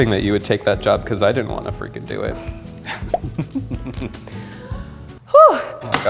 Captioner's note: evil laughing